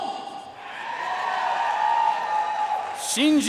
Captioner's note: audience cheering and applauding